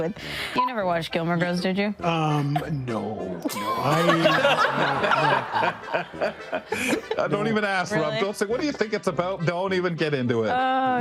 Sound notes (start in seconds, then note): 3.4 attendees laughing; 7.9 laughing